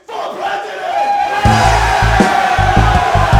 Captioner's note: crowd cheering